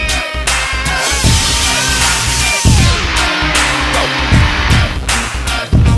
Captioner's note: whirs over music